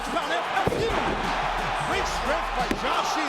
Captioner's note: crowd cheering; body thudding; hands thudding